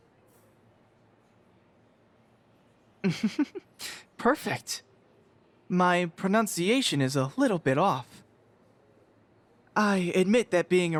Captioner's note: chuckle softly